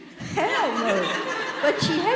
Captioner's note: audience laughing